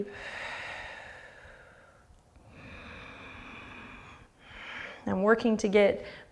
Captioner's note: deep breathing